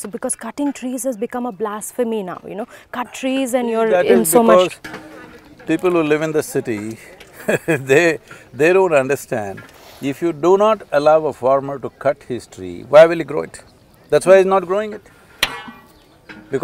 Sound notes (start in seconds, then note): 7.3 laughs